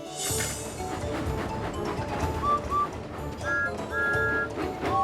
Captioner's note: whistles tooting